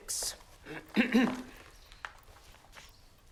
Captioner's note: clears throat